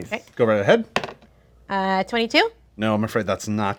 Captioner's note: dice roll